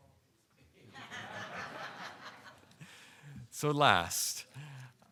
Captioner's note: audience laughing